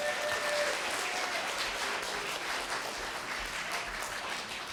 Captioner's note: applause